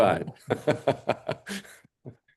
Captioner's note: laughs